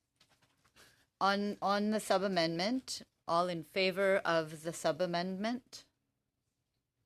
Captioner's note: speaking French